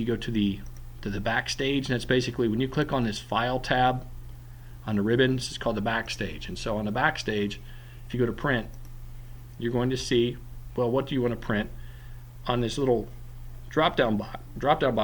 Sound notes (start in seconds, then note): 8.7 click